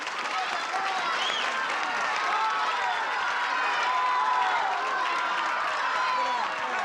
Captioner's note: applause; crowd shouting